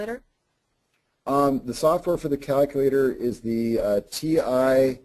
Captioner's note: voiceover